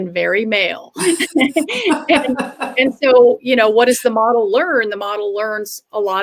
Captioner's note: laughter